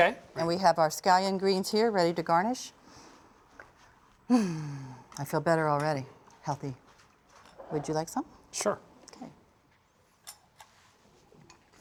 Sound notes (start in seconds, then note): 4.3 contented sighs